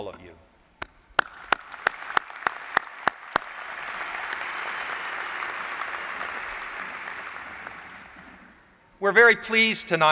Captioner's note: applause